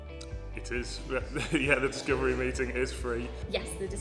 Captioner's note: laughs